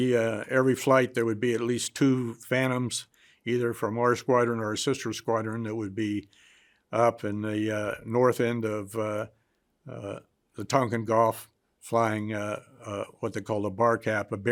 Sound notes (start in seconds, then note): none